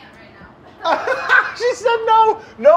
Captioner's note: laughing